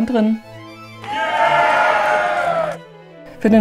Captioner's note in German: Jubel